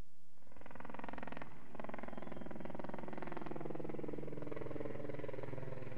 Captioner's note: helicopter blades whirring